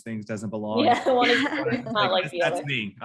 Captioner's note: laughs quickly